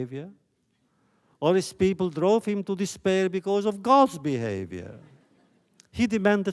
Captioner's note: laughter